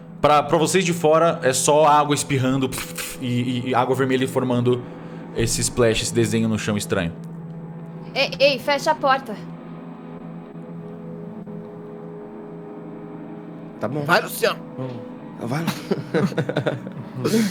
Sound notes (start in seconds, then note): 15.6 laughing